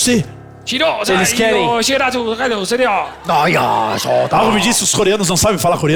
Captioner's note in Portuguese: conversa em japonês